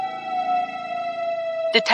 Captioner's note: siren blaring